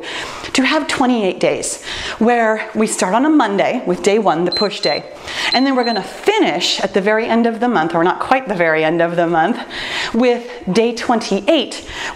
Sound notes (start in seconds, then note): 4.5 timer beeps